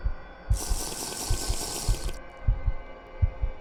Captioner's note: sipping